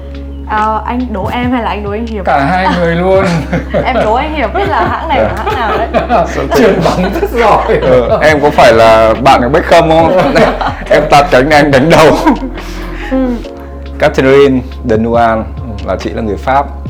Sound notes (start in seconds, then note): 6.2 laugh